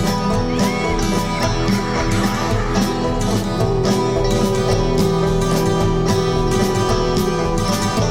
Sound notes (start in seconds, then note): 0.9 witch cackling; 3.7 werewolf howling